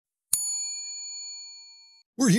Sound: bell dings

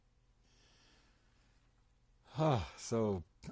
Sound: sighs

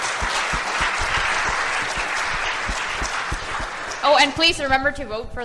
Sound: applause

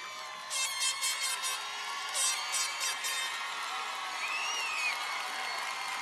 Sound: cheers and applause

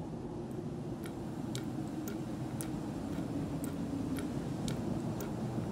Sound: water dripping continues

